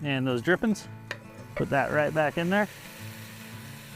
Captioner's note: meat sizzling